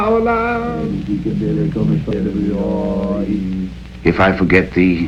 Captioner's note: chanting in foreign language